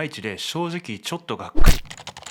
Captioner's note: thump!